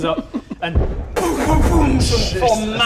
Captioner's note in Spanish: boomboomboom